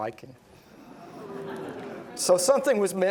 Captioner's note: audience gasping